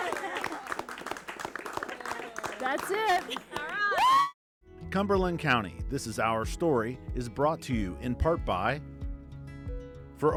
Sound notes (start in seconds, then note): 0.0 applause; 3.7 cheers